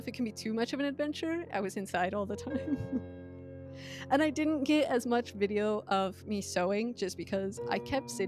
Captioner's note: laughs